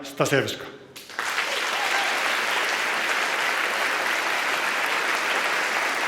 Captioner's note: applause and cheering